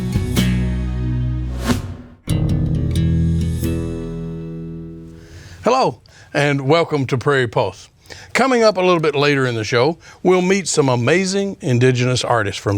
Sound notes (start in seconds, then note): 1.5 computer whooshing; 2.5 ambient music